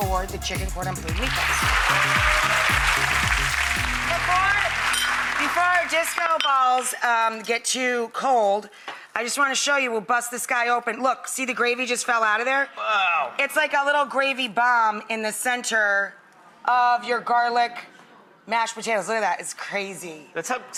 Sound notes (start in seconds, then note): 1.0 applause